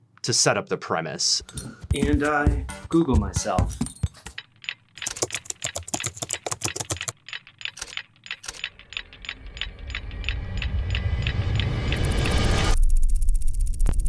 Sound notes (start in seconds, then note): 4.4 keyboard clattering; 9.5 dramatic music